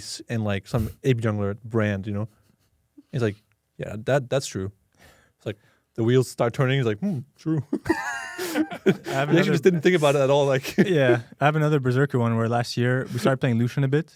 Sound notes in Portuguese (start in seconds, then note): 7.5 risos